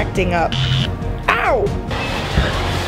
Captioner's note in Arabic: صوت أزيز